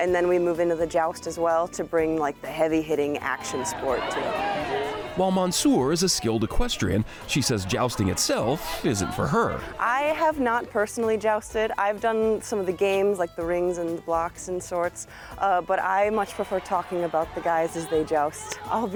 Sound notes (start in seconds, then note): 3.8 performers calling indistinctly